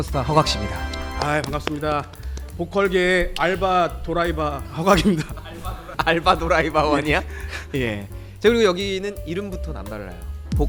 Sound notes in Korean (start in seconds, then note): 4.7 ㅋㅋㅋㅋㅋㅋㅋㅋㅋㅋ